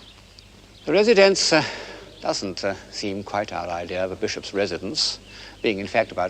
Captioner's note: sigh